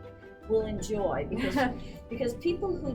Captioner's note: laughs